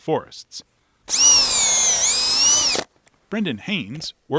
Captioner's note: drill whirring